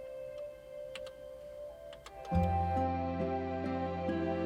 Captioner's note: keyboard clicking; gentle music